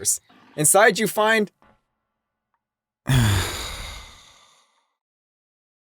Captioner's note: sigh